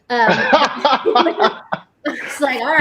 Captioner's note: laughing